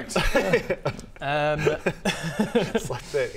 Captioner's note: unsympathetic laughter